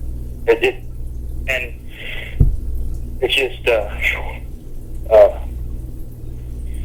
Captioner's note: sighs